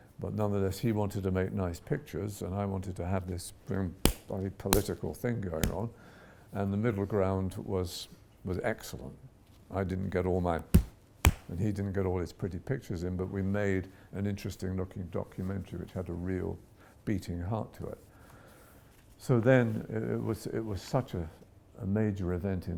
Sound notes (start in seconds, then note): 11.2 pounds hand